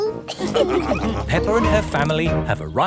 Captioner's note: all laughing